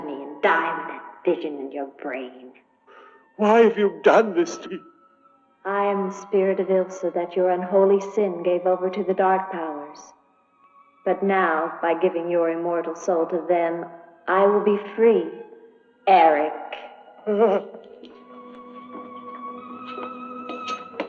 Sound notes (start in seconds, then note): 17.1 groaning